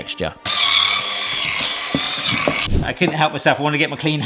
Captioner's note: whisk whirring